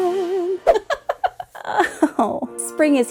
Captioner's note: laughing to groan